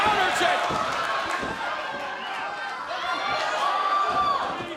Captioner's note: crowd cheering